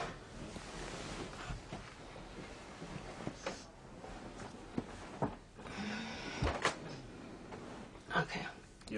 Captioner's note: sheets rustling